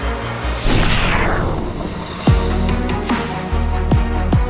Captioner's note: rocket engine blasts